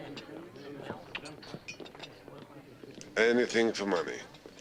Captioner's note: tongue clicking